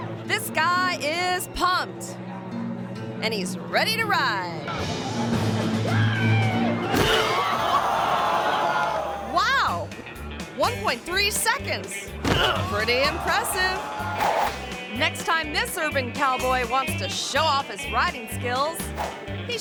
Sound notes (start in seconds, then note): 4.6 dramatic music; 12.2 head thuds